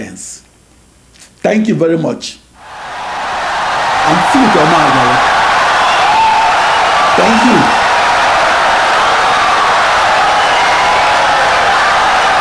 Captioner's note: wild applause and cheering for 17 seconds